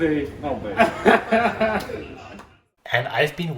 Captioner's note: laughing